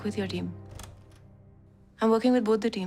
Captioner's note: door opens